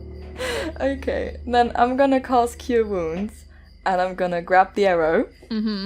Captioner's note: laughs